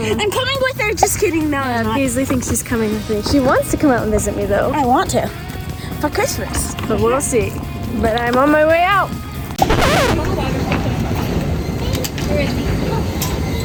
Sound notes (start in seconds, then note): 9.6 record scratch